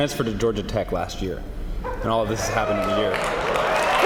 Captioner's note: cheers and applause